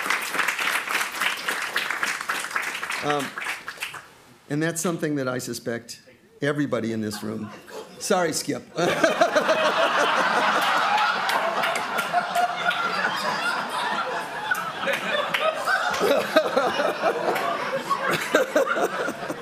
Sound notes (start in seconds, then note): 8.7 crowd laughing